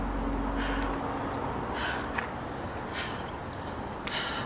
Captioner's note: panting